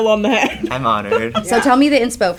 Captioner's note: laughs